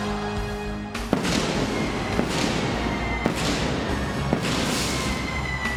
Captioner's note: pyro whooshing and popping